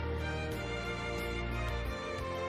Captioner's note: clap clap clap